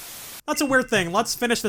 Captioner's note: static